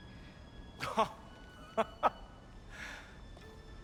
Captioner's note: laughs